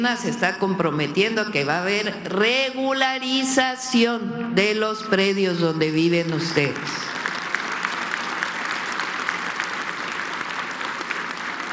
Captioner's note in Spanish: aplausos